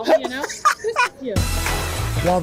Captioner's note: laughter